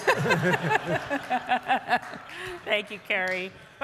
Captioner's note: audience laughs